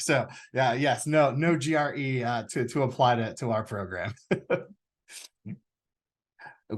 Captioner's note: chuckles